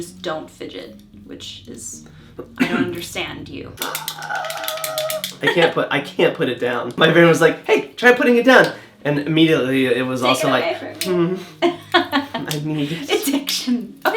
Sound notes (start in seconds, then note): 3.8 chaotic clicking and snapping sounds